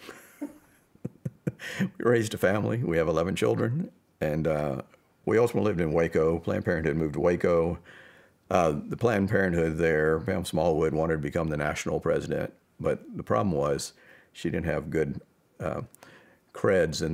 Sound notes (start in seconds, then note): 1.0 laughs